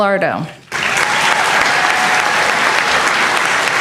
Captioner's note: applause